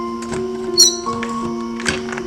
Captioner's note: door Handle Squeaks